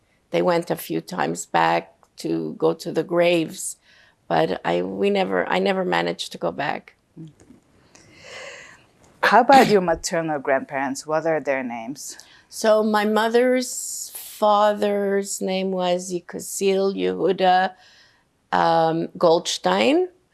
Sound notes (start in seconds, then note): 9.1 clears throat